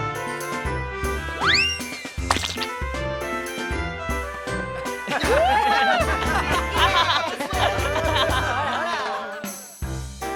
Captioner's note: the noise of throwing a pie at someone or Pieing